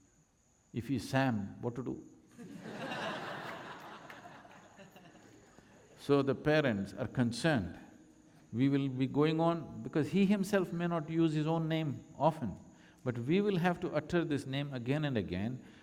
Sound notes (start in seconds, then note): 2.4 Crowd laughs with Sadhguru